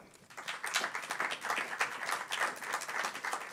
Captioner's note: applauding